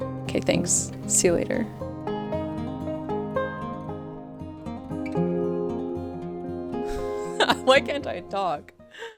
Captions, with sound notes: 'Kay thanks, see you later. [laugh] Why can't I talk!